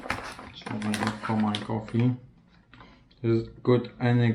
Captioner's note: bag rustle masking speaking